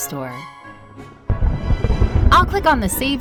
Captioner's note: thunder roaring